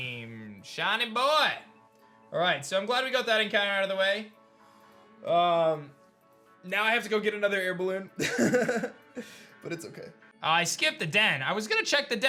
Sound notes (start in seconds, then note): 8.2 laughs